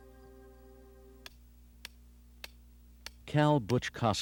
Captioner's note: hammer clacking